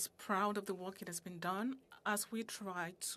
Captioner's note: speaking in French